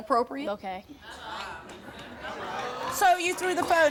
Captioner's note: murmuring